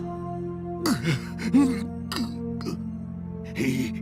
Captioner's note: angry breathing